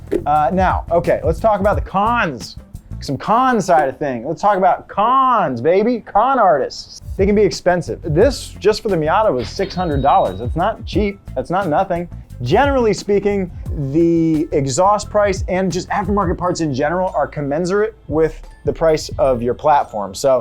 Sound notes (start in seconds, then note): none